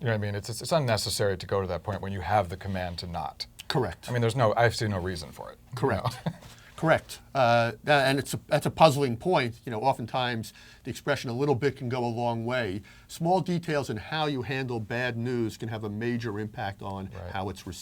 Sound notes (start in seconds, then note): 5.5 laugh